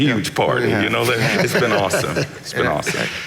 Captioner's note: laughing